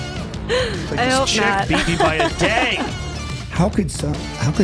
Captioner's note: laughter